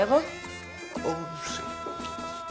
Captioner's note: speaking spanish